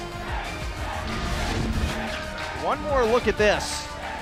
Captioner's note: crowd cheering